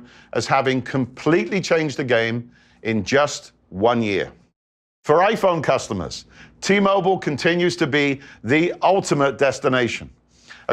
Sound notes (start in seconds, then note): none